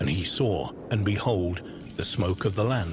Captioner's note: fire crackling